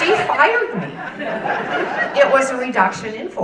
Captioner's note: audience laughing